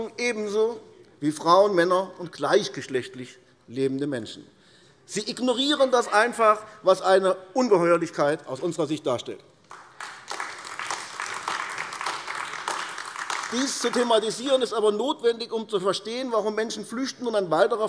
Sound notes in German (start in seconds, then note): 9.6 Beifall AfD